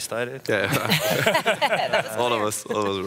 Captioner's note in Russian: смех